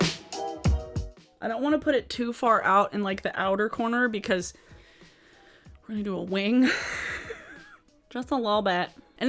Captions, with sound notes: I don't want to put it too far out in the outer corner because we're gonna do a wing (laughs) just a little bit.